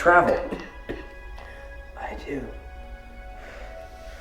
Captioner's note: coughing